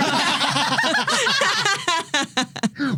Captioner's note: laughing